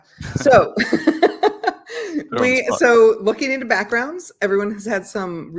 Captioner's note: laughs